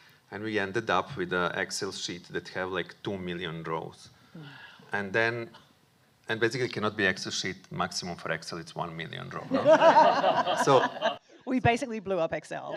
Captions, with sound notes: And we ended up with an Excel sheet that have, like, two million rows. And then, and basically cannot be Excel sheet sheet maximum for Excel, it's one million rows. [Audience laughing] So We basically blew up Excel.